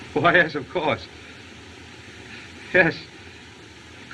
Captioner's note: none